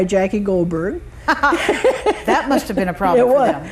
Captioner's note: both laugh